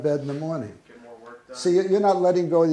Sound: voiceover

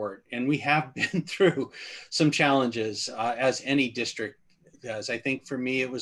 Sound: laughter

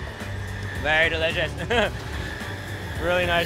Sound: laughs

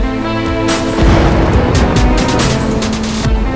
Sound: thunder rumbling

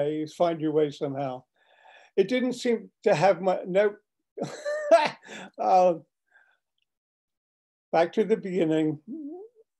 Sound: laughter

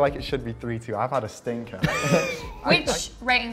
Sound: chuckle

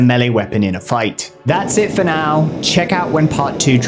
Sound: flame thrower roars

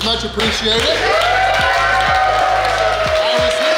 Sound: cheering & Clapping

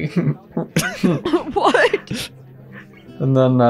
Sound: laughs

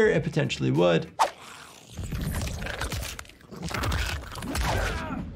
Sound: porcupine snarls

